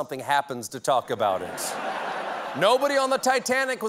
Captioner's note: laughter